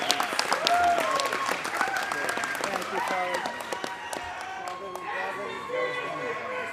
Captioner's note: applause